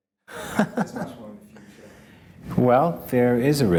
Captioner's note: laughs